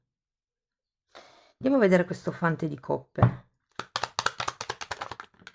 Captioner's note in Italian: Applauso